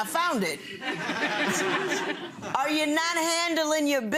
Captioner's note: people laughing